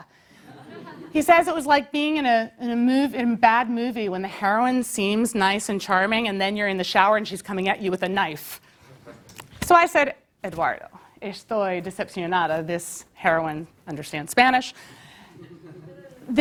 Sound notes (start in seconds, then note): 0.3 laugh; 8.5 laugh